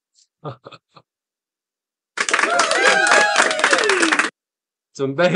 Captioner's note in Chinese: 拍手